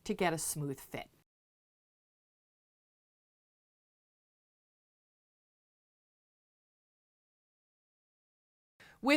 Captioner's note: no Sound Present